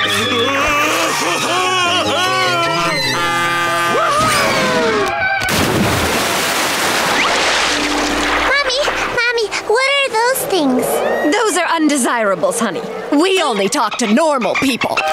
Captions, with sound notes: [laughing] Whoo hoo! [splashing] Mommy, mommy, what are those things? Those are undesirables, honey. We only talk to normal people!